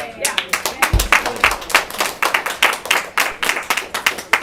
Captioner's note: everyone clapping